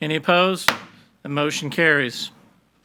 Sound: gavel bangs

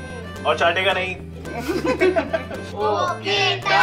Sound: laughing

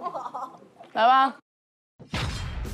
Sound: stage Boom

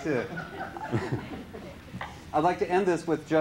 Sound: laughter

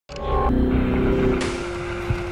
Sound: sound of a casette tape

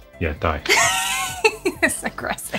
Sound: laughing

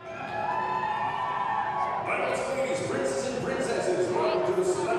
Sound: cheering

